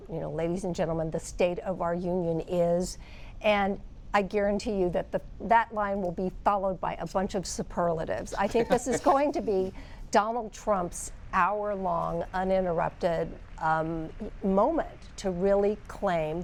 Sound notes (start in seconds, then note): 8.3 laughter